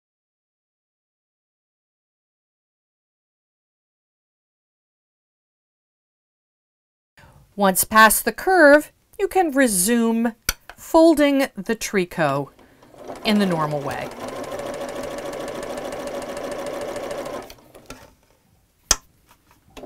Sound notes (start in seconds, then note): 0.0 no Sound Present; 12.2 sewing Machine Sounds